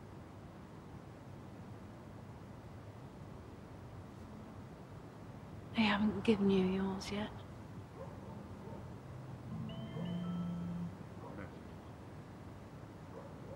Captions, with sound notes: They haven't given you yours yet. (dogs barking) (mobile bleeps - "message")